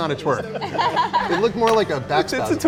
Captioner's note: Bella laughs